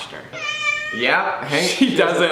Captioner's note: cat meows